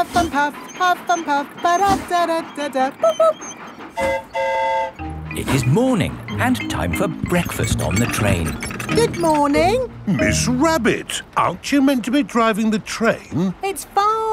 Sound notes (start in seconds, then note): 3.9 mimics train whistle; 3.9 train whistle toots